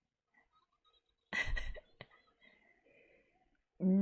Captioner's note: laughs